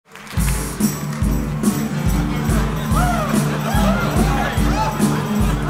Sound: upbeat music; performers cheering

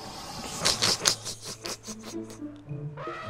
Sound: snickering

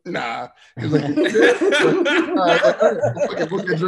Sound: laughs

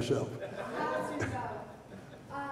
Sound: audience laughter

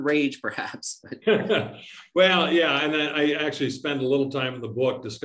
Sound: laughs

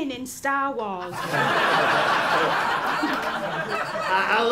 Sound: laughter

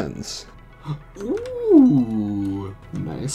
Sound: gasp

